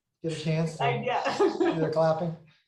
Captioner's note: laughs